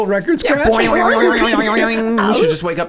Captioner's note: funny noises